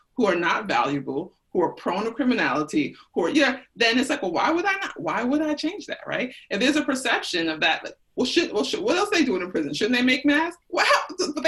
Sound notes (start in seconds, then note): none